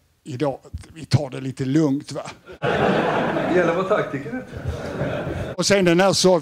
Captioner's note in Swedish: Skratt